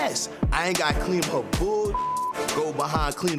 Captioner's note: beeps